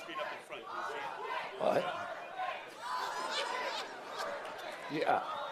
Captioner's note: crowd chanting